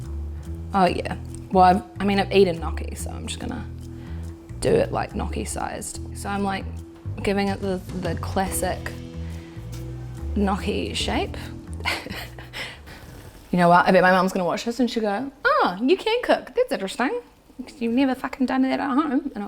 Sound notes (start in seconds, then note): 11.8 laughs